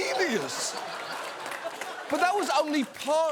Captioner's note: audience laughs